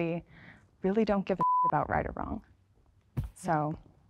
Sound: beep

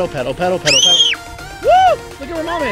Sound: screams

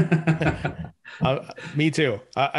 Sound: both laughing

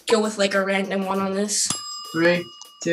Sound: timer ding

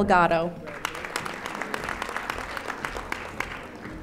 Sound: audience applauding

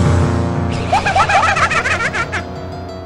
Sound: Majora's Mask laugh

